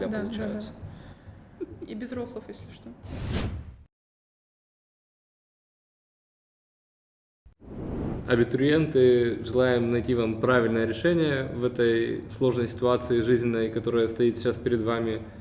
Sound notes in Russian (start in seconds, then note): 1.6 хихикает